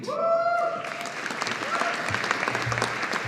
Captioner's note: audience applauding